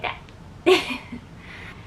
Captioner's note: laughs